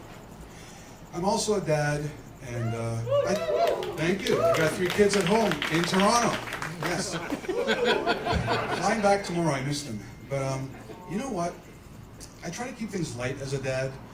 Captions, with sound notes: I'm also a dad, and ... [Cheers] Thank you. I've got three kids at home, in Toronto. Yes... [Laughter] I'm flying back tomorrow, I miss them. You know what? I try to keep things light as a dad.